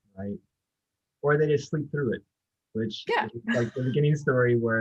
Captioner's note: laughs